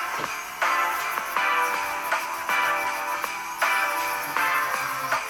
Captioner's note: dremel buzzing